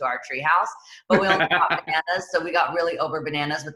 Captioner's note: laughs